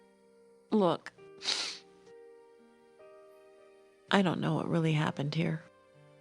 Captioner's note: sniffs